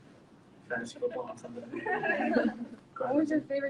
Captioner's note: audience laughs